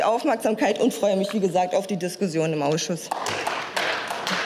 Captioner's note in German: Beifall